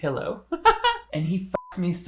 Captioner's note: giggling